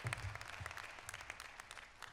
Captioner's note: applause